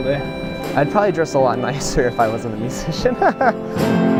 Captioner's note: laugh; live music playing